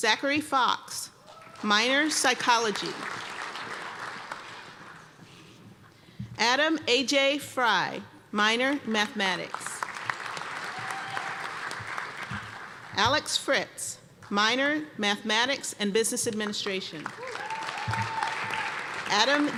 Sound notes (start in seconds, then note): 2.0 applause; 9.4 applause; 17.1 cheers and applause